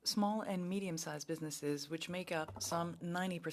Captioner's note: speaking French